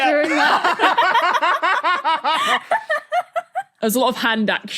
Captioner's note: guests laugh heartily